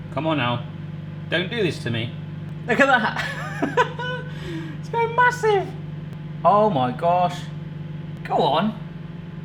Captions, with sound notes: Come on now. Don't do this to me. Look at that! (laughs) It's grown massive. Oh my gosh. Go on!